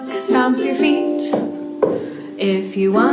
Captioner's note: stomps